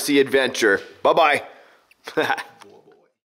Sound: laughs

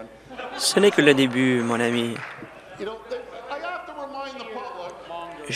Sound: laughter

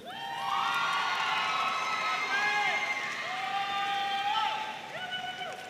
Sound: audience cheering and applauding

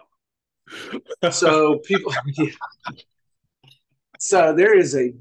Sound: laughing

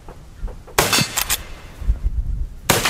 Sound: gun fires; gun fires

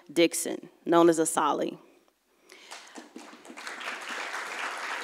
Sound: audience applauds

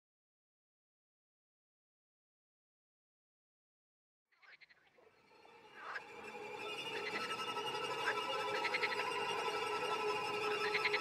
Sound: frogs and toads screaming

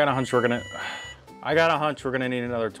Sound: timer beeps

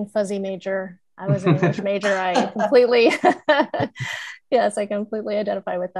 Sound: laughs

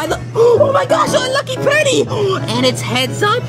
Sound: gasps

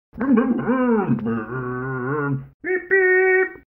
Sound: Scruff makes scooter noises

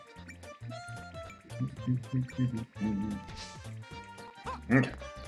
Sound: humming along

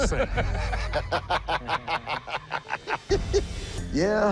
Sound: laughter

